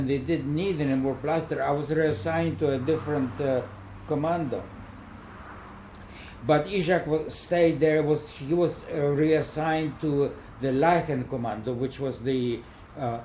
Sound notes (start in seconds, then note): 4.8 cold wind